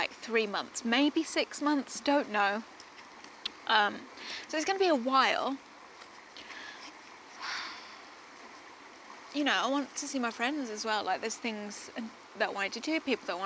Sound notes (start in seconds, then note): 7.4 sighs